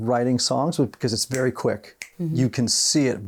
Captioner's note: fingers snapping